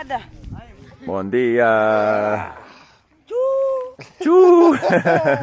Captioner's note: speaking in foreign language